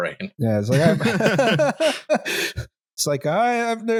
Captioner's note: laughter; laughs